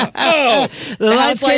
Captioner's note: laughing